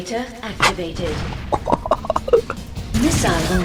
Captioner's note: laughs to myself